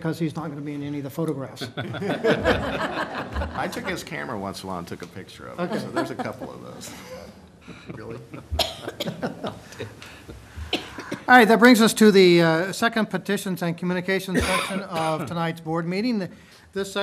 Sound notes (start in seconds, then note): 1.6 laughter